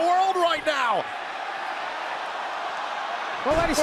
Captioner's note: crowd cheering